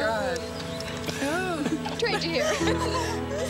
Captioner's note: laughter and tears